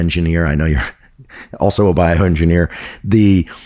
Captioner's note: chuckles